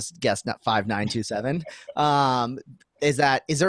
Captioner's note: laughing